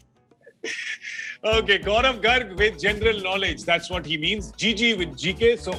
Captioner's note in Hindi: हंसते हुए